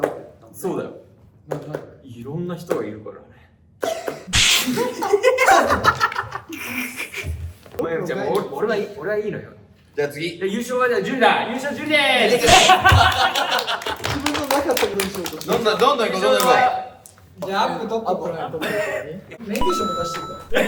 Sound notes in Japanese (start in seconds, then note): 4.7 笑い声; 12.5 笑い声・拍手